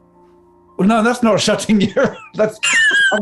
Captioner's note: laughing